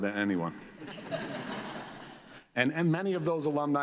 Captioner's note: audience laughs